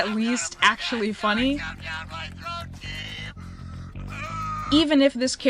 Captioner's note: screeches pathetically